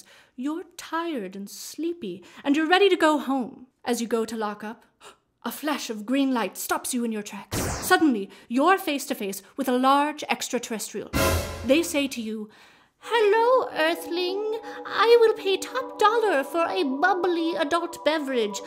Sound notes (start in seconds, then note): 11.1 dramatic crash; 13.4 mysterious space music